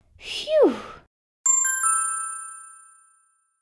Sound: ding!

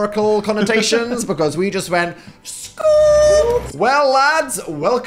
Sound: imitates bulldozer

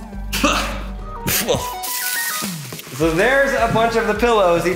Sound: coughing

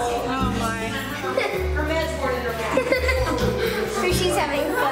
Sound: laughing

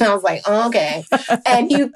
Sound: laughing

